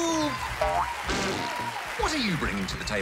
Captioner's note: applause